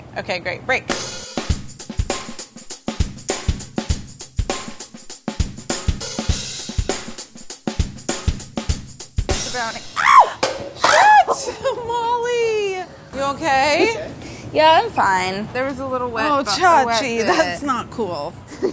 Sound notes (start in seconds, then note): 1.2 fun drum break; 9.9 screams